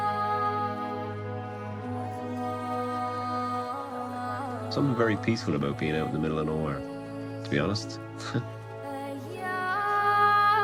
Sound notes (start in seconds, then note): 4.2 voice-over; 8.2 chuckles